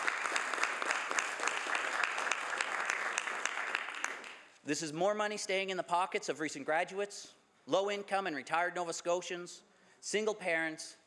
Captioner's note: some Applause